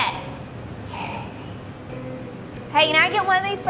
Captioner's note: Ferra gagging